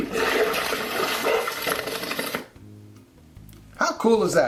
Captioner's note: water splashing